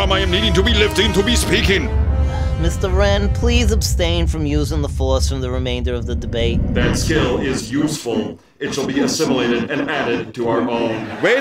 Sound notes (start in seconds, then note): 2.0 sighs